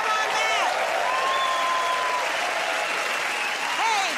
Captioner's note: cheers and applause